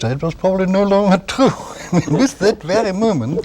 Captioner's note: laughter